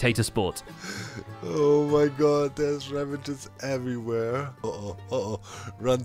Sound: laughing

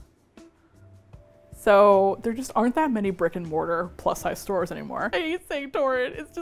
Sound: laughs

